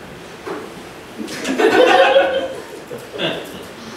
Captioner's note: laughter